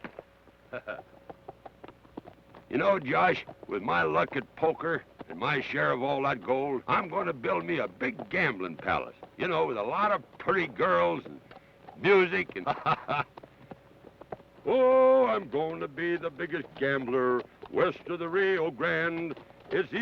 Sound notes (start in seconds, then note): 0.6 Carney chuckles; 12.0 laughs